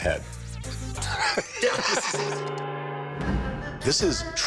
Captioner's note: cackles